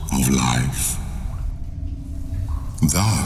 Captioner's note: cave noises